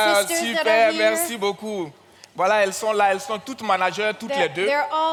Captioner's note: continues in French; continues in French